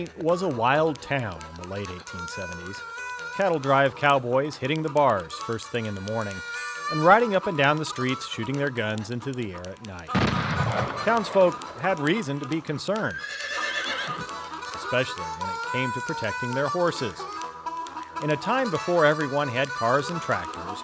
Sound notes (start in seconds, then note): 10.1 gunshot; 13.1 horse neighing